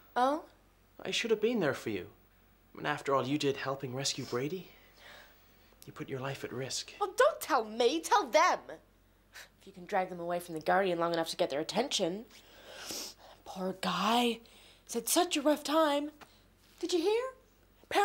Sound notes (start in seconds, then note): none